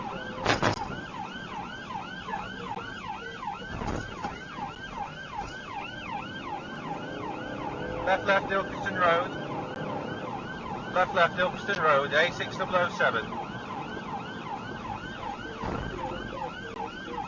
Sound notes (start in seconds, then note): 0.7 car clunks over speedbump; 6.1 engine accelerates